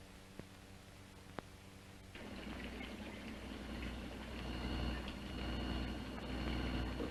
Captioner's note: machines whirring